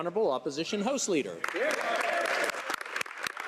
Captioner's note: speaking French